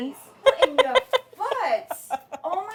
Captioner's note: laughs